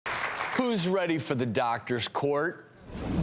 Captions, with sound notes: (audience applauds) Who's ready for The Doctor's Court?